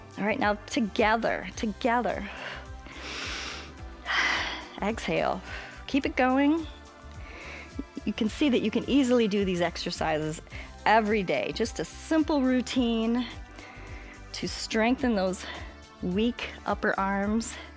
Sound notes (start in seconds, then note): 2.3 inhales and exhales